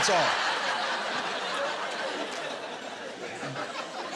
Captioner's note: laughter